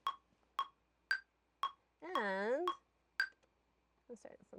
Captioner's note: click track